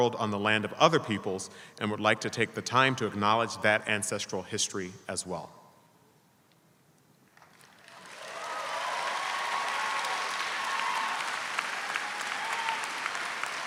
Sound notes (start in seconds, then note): 7.3 audience applauding